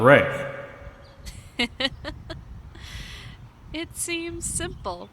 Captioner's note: laughs